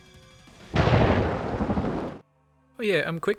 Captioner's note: return of dramatic thunder